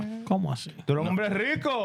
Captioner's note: speaking In Foreign Language